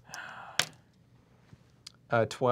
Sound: die clatters

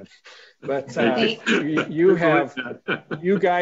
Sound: laughing

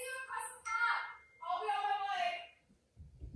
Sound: text tone

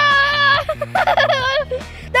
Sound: laughs

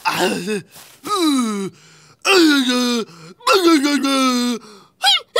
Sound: screaming

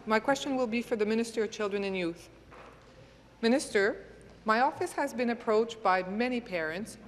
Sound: speaking in French

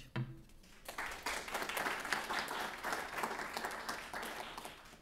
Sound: applauding

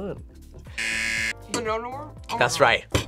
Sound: buzzer

